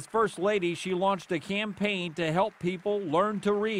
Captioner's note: applause